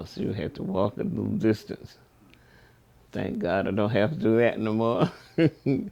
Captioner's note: laughs